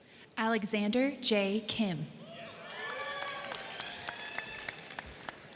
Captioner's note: crowd cheering